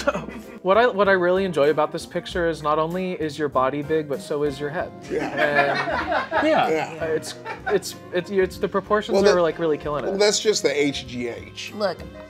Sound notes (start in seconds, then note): 5.0 people laughing